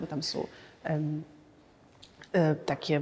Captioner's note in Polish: cisza